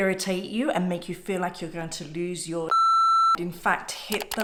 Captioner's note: beeping